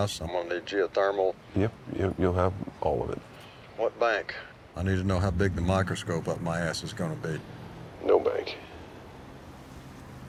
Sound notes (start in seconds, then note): 8.0 on phone